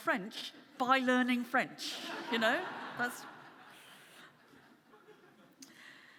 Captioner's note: audience laughing